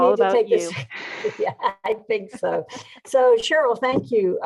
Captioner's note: laughing